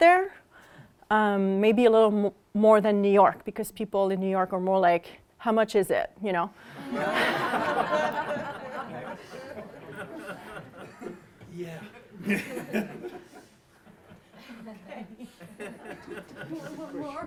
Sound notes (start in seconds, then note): 6.7 laughter